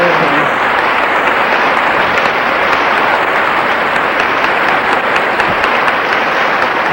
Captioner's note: applause continues